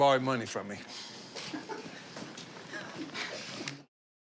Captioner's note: chuckling